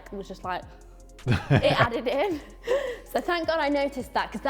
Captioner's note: laughs